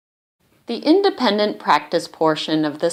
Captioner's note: voiceover